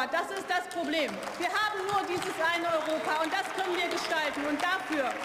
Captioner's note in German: Beifall